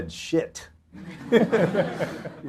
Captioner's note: audience laughter